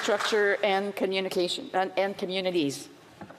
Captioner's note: some Applause